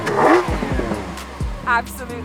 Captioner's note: tttttrrrrRRRRRAAAAAWWRRRR-RRRRAAAAAAWWWRRR!